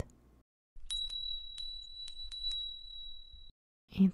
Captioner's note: small bell rings